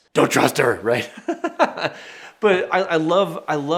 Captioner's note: chuckles